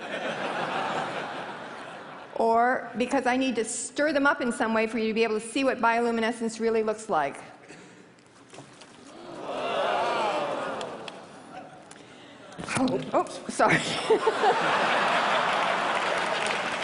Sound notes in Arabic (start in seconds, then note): 0.1 ضحك; 9.1 تعجب; 15.1 ضحك